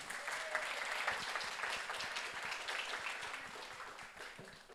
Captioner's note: audience applauds